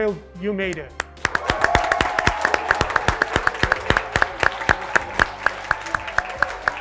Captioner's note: graduates clapping; graduates cheering